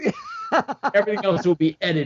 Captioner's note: laughs